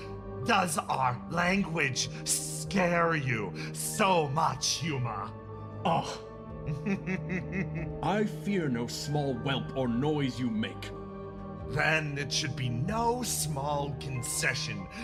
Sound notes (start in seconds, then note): 5.7 Varnus Scoffs; 6.6 laugh